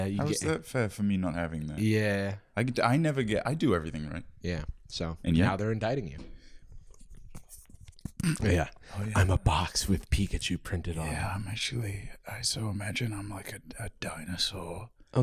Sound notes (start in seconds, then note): 6.7 ASMR-style rustling; 11.2 quietly